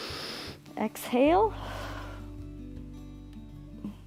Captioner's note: exhales; inhales